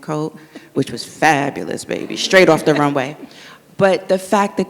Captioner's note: audience laughs